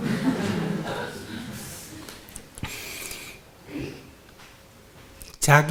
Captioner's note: audience Laughter